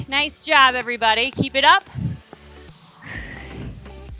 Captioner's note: exhales